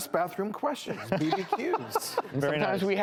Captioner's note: laughs